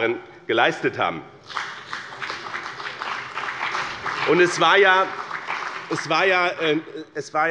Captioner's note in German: Beifall bei dem BÜNDNIS 90/DIE GRÜNEN und der CDU